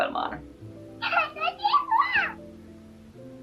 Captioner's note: kawaii noises